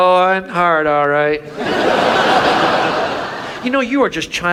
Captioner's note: audience laughs